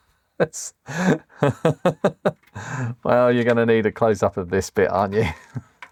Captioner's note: laughs